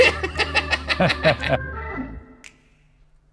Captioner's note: laughing; jazz music